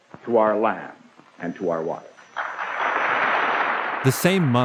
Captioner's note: audience applauding